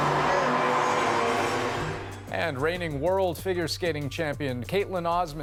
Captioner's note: cheers and Applause